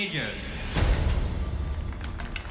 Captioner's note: applause